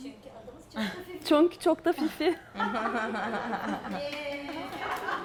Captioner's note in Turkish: Gülüşmeler